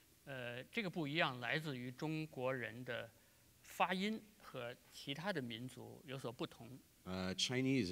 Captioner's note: speaking in Chinese